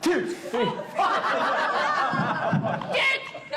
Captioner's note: all laugh